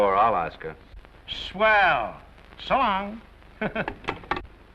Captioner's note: chuckles